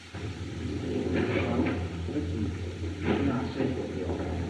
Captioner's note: chattering